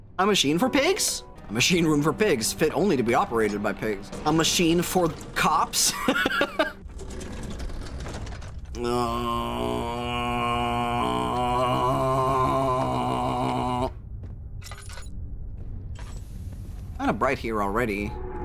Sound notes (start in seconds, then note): 5.9 laughs; 8.0 groans